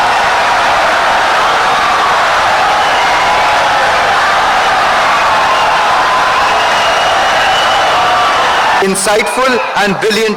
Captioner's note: wild applause and cheering for 17 seconds